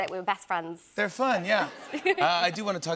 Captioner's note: laughter